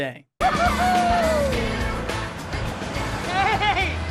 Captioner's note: loud cheering